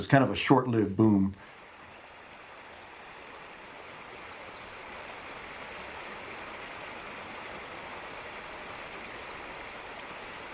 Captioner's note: nature Sounds